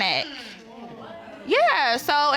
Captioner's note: audience exclaiming